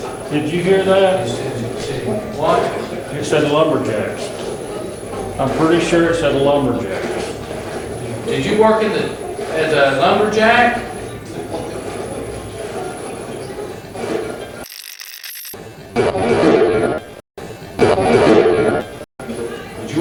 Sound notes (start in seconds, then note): 14.8 radio scratching; 17.5 radio voice